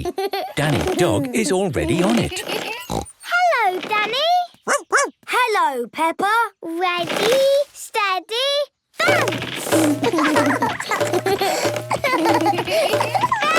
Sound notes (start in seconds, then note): 1.8 snorts; 4.6 barks; 9.9 both laugh